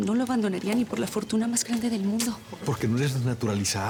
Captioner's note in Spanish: none